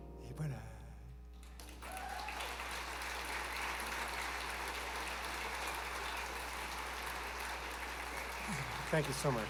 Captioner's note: applause